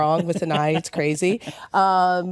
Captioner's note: laughs